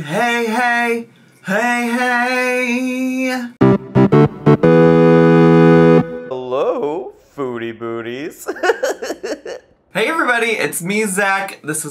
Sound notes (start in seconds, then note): 3.6 bright music; 8.4 giggles